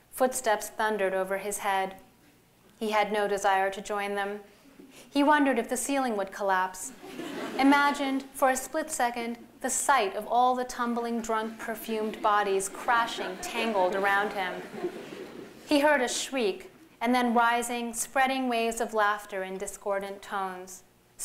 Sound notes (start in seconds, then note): 6.9 laughter